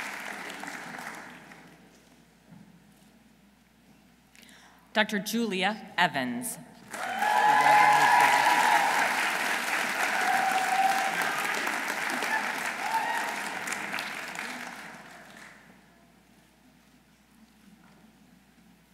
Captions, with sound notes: Dr. Julia Evans. -(audience cheering) -(audience applauding)